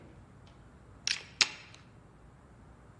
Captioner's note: click